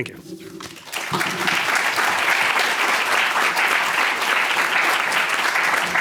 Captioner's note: applause